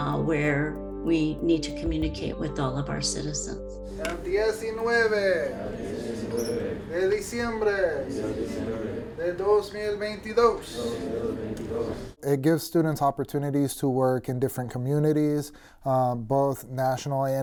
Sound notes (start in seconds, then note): 4.0 reads date in Spanish; 4.0 students respond in Spanish